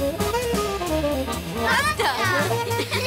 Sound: kids shout

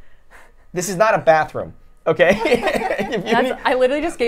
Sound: laughs

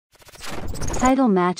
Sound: transition warps

